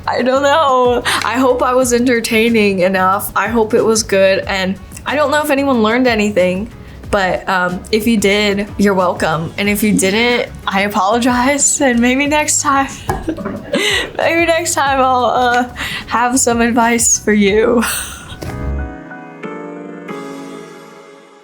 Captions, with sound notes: I don't know, I hope I was entertaining enough. I hope it was good. And I don't know if anyone learned anything, but if you did, you're welcome. And if you didn't, I apologize. And maybe next time, [chuckles] maybe next time I'll have some advice for you. [chuckles] [gentle music]